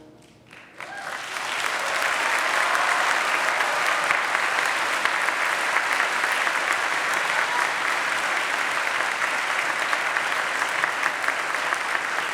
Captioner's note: applause